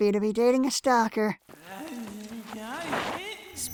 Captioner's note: Kuradeel mumbling in pain